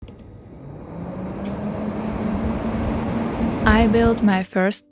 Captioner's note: fans ramping up